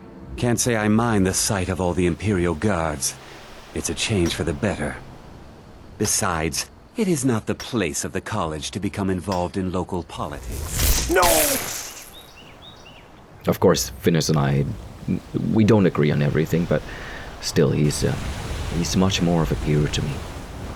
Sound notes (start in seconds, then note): 10.4 zap